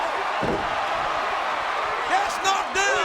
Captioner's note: body thuds